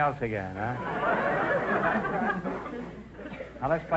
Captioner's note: audience laughter